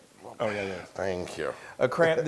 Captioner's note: laugh